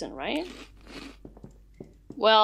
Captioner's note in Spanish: crujido crujido